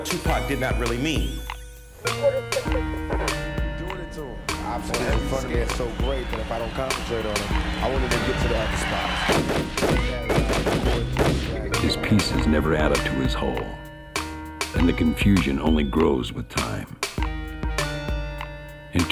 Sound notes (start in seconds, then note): 3.4 crowd cheering; 9.4 gunshots